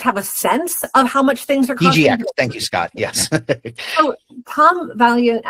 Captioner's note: laughs